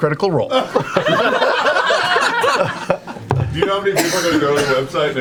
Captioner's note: all laugh